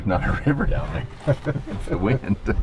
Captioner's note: laughing